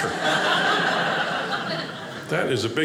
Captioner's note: audience laughing